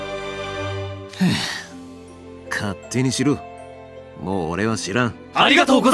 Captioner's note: sigh